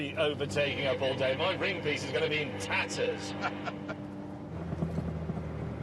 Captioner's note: laughs